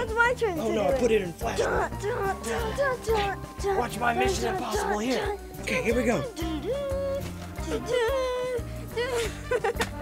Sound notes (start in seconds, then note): 8.9 laughs